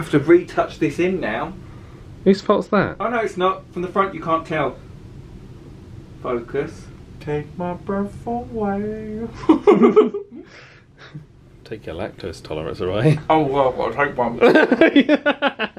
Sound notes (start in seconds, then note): 9.3 laughs; 14.4 laughing